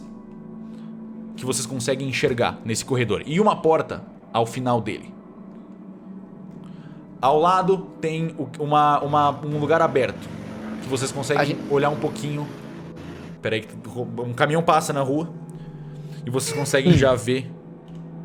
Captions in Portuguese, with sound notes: que vocês conseguem enxergar nesse corredor e uma porta ao final dele. Ao lado tem um lugar aberto, que vocês conseguem olhar um pouquinho… [chiado] Espera aí que… Um caminhão passa na rua. E vocês conseguem já, ver…